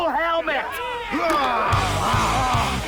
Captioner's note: cheering